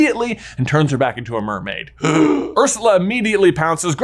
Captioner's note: gasps